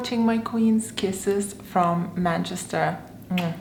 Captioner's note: kissing